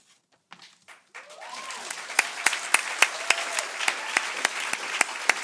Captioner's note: cheering